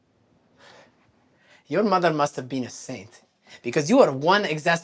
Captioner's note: huffs